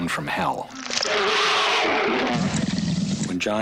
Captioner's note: growling